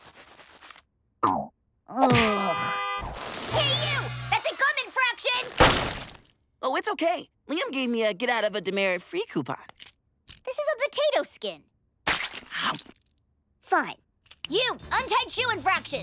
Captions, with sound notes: [groaning] Hey, you! That's a gum infraction! Oh, it's OK. Liam gave me a get-out-of-a-demerit-free coupon. This is a potato skin. Fine. You, untied shoe infraction.